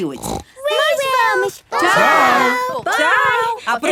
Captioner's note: snort